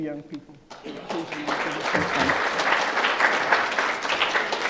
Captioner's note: applause